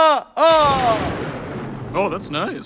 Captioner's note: thunder rumbles